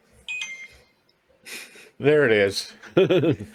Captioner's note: another phone notification sound